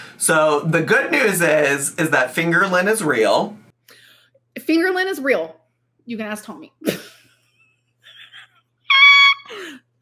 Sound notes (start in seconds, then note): 8.8 laughs